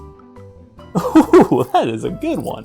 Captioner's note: laughing